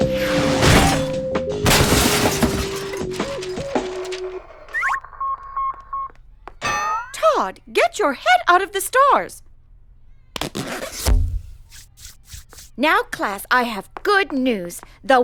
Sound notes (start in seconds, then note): 0.0 clattering; 4.7 satellite beeping